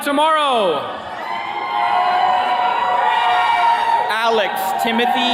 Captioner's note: attendees cheering